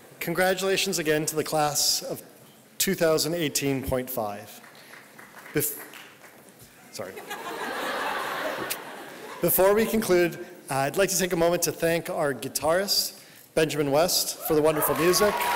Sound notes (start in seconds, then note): 7.1 laughter